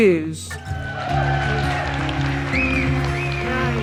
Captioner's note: audience applauding